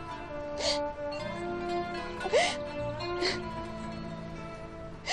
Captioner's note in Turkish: Ağlama sesleri duyulur